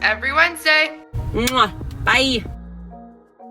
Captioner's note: upbeat music; smacks